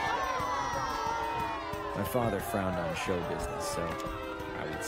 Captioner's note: crowd booing